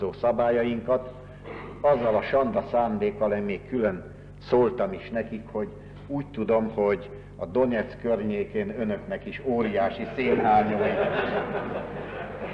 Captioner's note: laughter